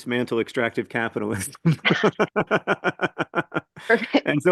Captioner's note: laughs